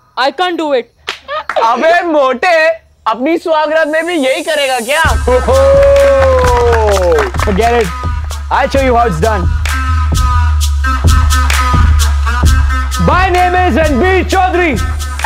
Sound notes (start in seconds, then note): 5.1 Laughing